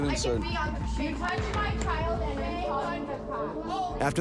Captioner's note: mother speaking